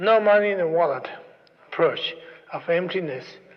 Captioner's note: none